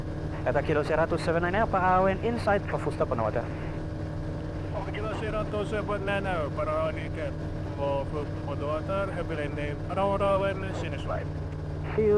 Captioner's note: talking to atc